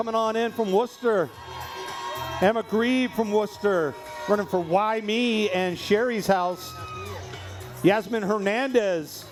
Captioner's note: cheering